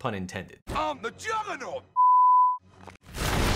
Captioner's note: beep